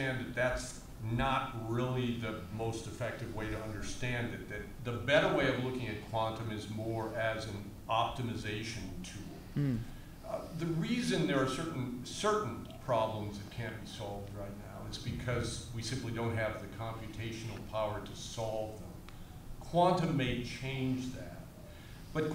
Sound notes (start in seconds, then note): none